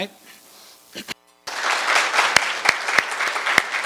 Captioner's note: applause